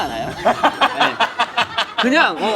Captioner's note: laughing